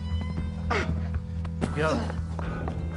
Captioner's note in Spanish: quejidos